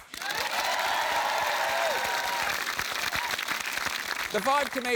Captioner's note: cheering, applause